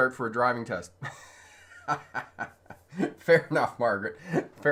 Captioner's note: laughing